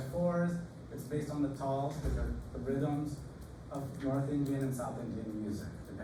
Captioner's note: non-english